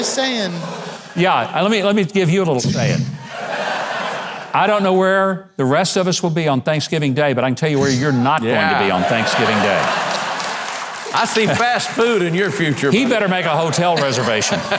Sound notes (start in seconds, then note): 10.2 audience laughs